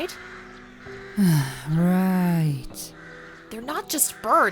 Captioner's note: sigh